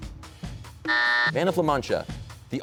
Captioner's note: buzzer sounds